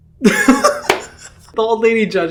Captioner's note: Hyram laughing